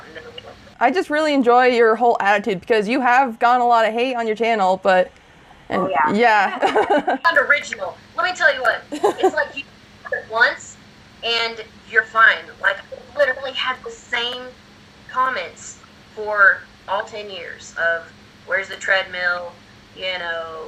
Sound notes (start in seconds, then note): 6.4 laughs